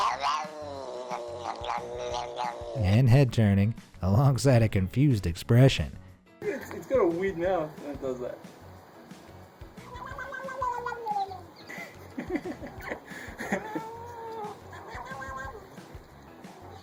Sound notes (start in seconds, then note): 0.0 cat meowing; 9.8 cat meowing; 11.9 laughing